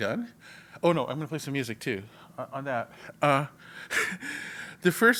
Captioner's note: laugh